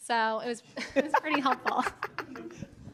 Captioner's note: laughs loudly